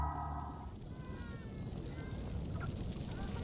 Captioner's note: dolphins clicking, calling